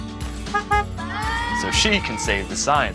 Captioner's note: honk, honk